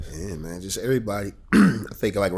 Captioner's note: clears throat